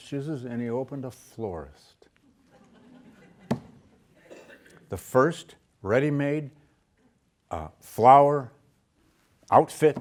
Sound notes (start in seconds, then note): 2.3 students laughing